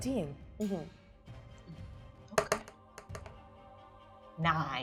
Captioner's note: die rolling